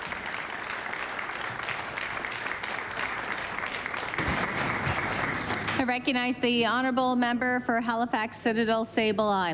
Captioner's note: applause